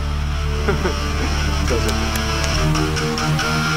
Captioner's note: Tanmay laughs